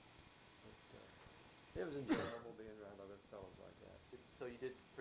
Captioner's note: coughs